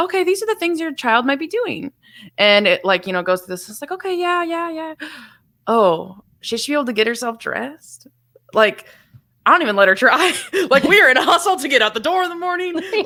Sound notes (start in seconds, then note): 5.0 gasps